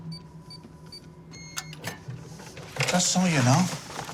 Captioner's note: lock combination beeping